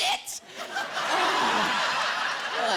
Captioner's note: laughter